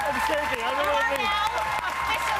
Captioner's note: cheers and applause